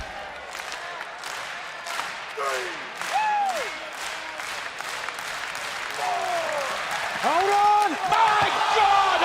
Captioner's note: crowd cheering